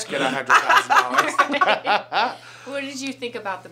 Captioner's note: all laugh